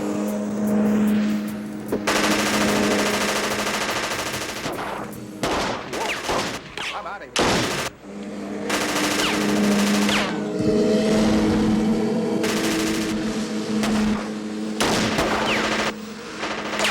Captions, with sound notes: (motor buzzing) (gunshots booming) - I'm out of here! (rapid gunfire popping) (motor buzzing) (gunshots booming)